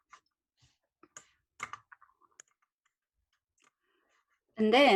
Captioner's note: keyboard clicking